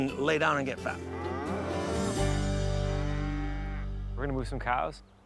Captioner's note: cow moos